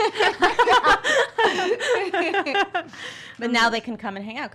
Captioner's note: laughs